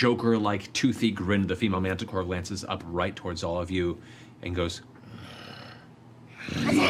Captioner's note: growls